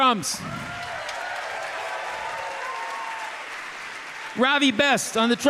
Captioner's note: audience cheering; audience applauding